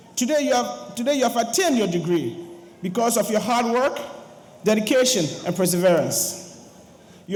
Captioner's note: none